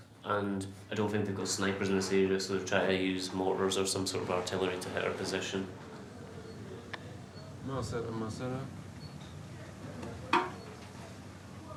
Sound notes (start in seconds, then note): 8.0 speaks faintly